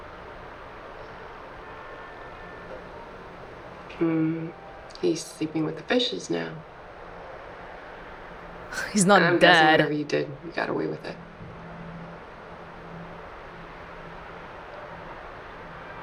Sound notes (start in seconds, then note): 8.8 scoffs